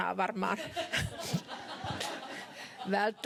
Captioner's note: laughter